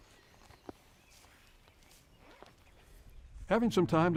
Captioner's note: teeth chewing